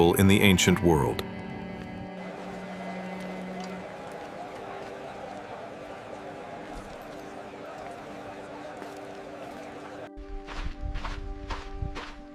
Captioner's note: footsteps